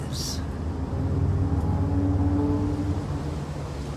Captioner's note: loud traffic